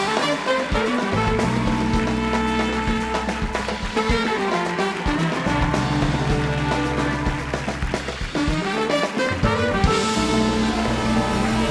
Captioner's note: cheers and applause